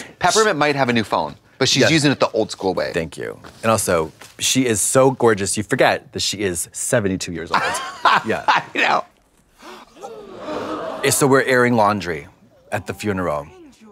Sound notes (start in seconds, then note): 9.5 mourners gasp loudly